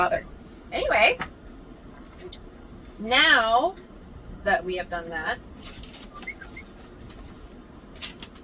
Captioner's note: whistles